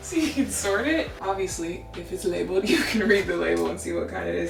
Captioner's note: laughs